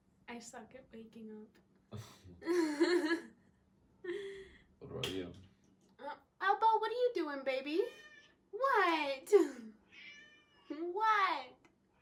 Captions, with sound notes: - I suck at waking up. (laughs) - What about you? - Elle Belle, what are you doing, baby? (meows) What? (meows) What?